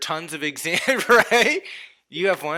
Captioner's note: chuckles